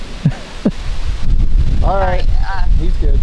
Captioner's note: laughing